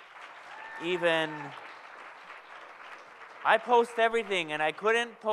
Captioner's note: audience applauds